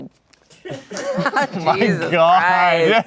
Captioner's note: everyone laughs